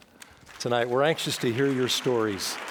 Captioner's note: audience applauding